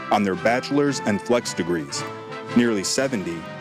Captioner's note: none